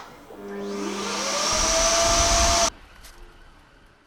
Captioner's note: air blows loudly